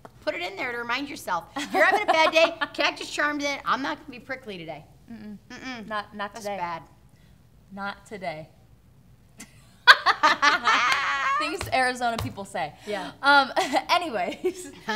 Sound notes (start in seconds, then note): 8.2 laughing